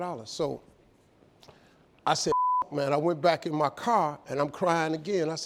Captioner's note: beep